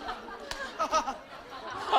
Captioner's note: haha